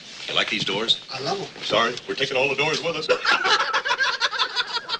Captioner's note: laughing